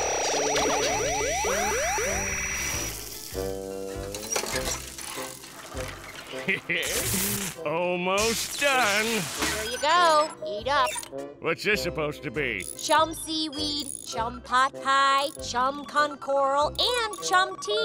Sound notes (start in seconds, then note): 6.3 chuckles